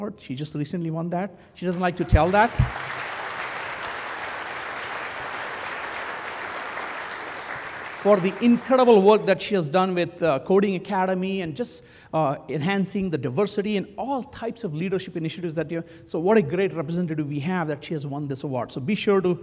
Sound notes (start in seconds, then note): 1.8 applause